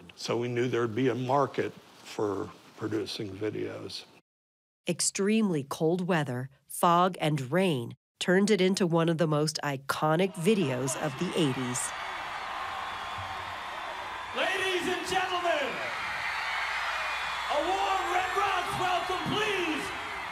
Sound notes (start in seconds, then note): 12.0 audience cheering; 15.4 audience screaming